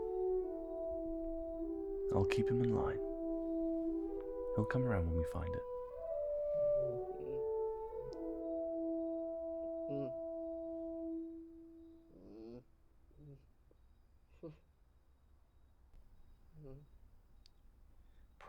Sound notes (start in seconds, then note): 10.6 muttering fitfully